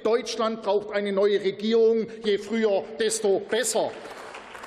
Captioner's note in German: Beifall